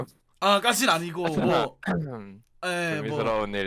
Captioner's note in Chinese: 乾咳